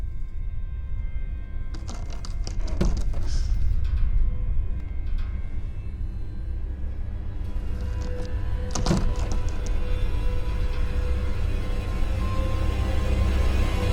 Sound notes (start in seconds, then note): 1.7 door creaking; 3.2 gasps